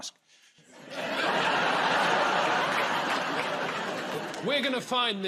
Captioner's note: laughter